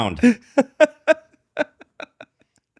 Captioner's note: laughing